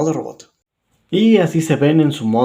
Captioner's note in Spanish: Silencio